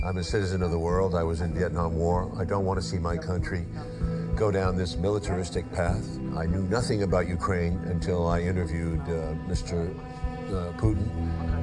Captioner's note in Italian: parla una lingua straniera